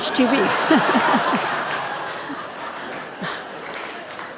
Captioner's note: audience laughing